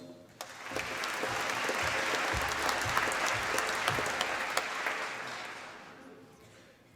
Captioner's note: applause